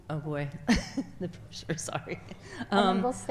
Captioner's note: laughs